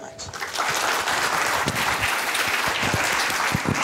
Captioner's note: applause